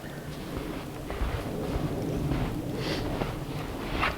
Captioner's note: wind rustling